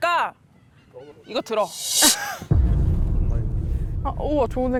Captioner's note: kiss sound effect